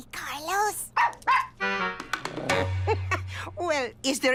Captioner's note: barks; chuckles